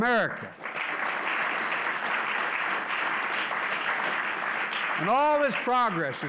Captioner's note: applause